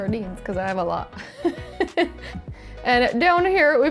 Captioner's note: laughs